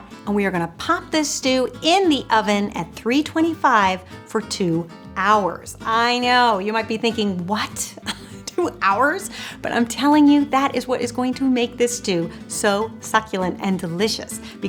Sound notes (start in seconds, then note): 7.9 chuckles